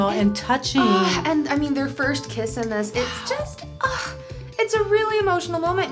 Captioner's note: sighs